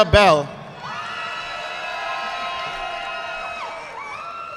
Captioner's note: audience clapping